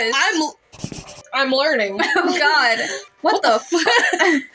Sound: chuckle

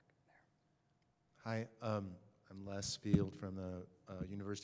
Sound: voiceover

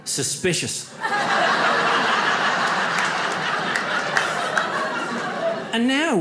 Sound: audience laughs

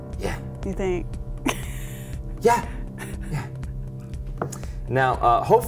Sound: laughter

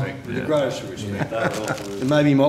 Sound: chuckle

